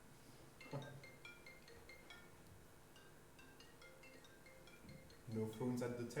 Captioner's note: phone rings